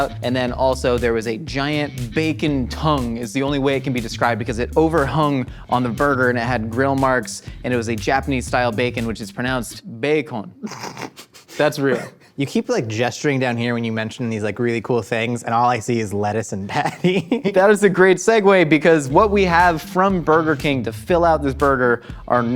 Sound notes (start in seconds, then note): 10.6 laughing